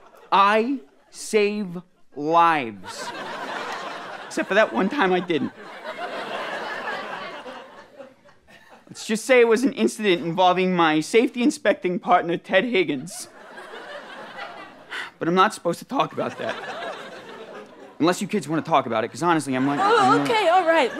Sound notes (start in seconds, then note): 6.0 audience laughter; 14.9 sighs